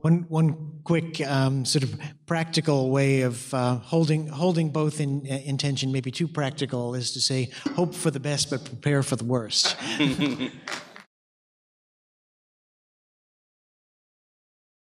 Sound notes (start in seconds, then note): 9.6 chuckling